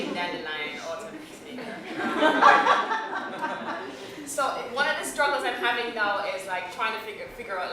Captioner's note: laughter